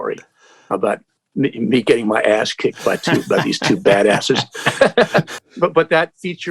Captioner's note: laughter